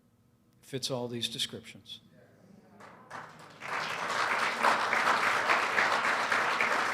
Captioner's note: applause